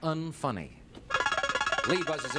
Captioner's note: buzzer beeps